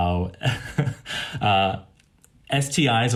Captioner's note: laughs